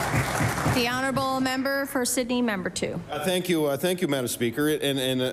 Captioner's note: applause